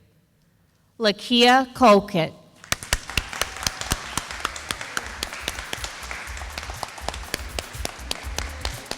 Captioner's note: sound of applause